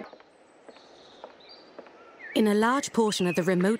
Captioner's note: footsteps